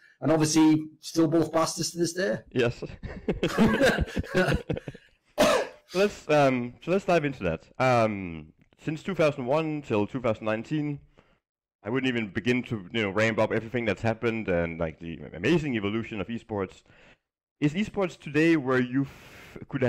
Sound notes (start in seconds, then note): 2.9 laughing